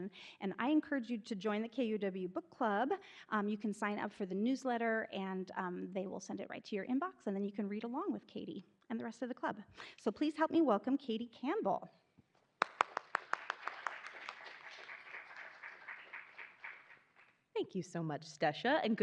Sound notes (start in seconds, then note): 12.6 attendees applauding